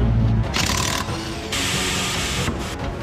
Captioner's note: the cordless screwdriver rattles; dramatic music